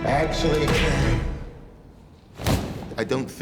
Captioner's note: gunshot